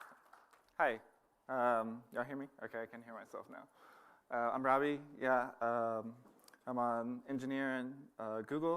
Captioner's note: applause